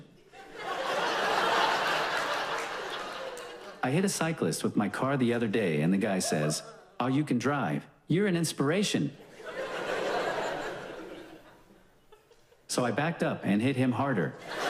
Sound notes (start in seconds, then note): 0.1 audience laughs loudly; 9.2 audience laughs; 14.4 audience laughs loudly